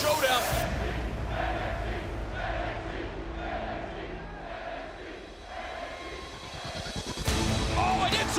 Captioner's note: crowd cheering